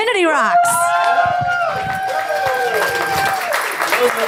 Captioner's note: applause